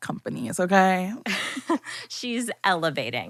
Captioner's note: laughing